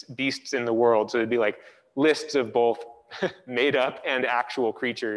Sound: chuckles

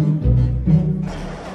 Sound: vroom

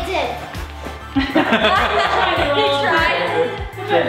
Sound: laughing

